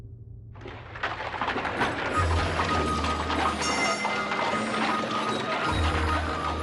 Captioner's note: carts rumbling